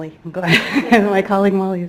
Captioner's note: she laughs